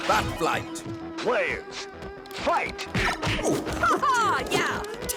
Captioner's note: video game chimes